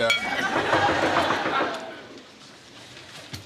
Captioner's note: knocking on door